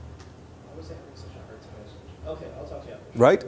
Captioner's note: talking quietly